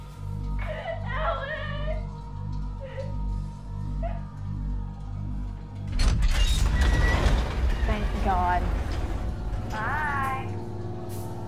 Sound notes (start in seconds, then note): 3.5 crying; 5.9 metal door rattles